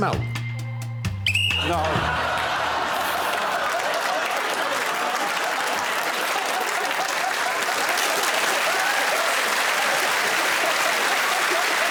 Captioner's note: blows whistle